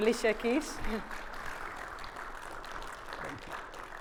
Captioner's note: audience applauding